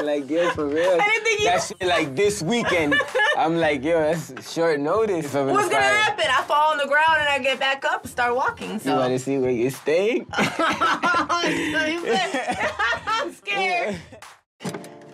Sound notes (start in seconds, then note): 10.4 laughing